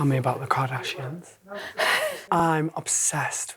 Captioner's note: laughs